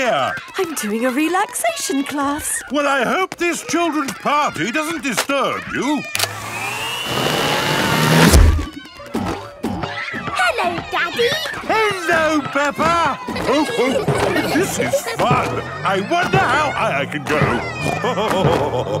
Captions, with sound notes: - I'm doing a relaxation class. - Well, I hope this children's party doesn't disturb you. - Hello, Daddy. - Hello, Peppa! (laughing) This is fun. I wonder how high I can go. (snorting and laughing)